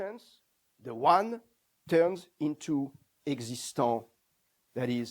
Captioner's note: non-english